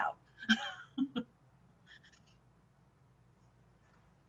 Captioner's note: laughing